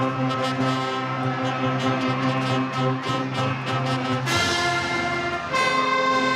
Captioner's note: attendees cheering; attendees applaud